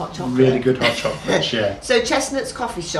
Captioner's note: laughing